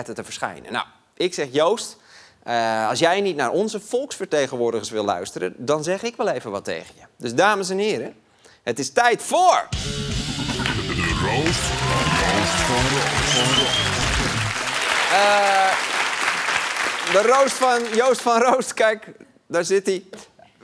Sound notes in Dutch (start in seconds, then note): 13.7 applaus; 19.7 gelach